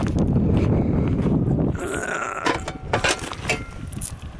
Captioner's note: wind blowing; grunts